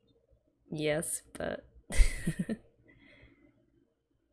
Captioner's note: laughs